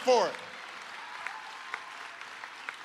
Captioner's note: applause